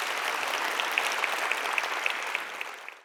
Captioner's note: clapping